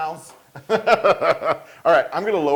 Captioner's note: laugh